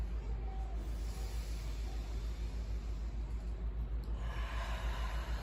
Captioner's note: inhale; exhale